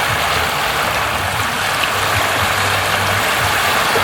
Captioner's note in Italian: Applauso